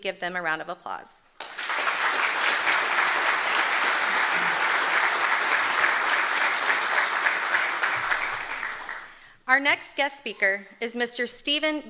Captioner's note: applause